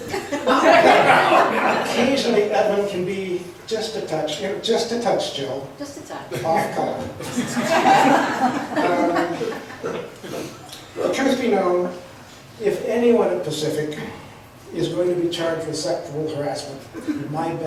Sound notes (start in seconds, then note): 0.0 laughs; 7.2 laughs